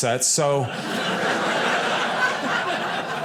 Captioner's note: audience laughing